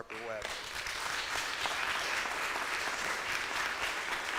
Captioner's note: audience applauds